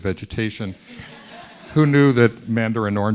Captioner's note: students laughing